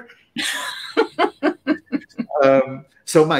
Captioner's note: laughter